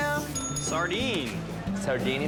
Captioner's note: bell dings